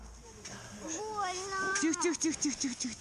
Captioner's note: child cries